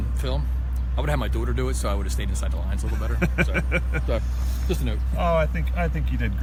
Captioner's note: laughter